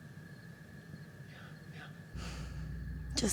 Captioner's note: whispering